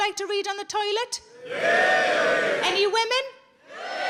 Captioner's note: men cheering; women cheering